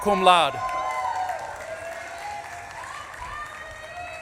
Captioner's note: audience claps and cheers